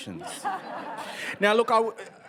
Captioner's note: audience laughs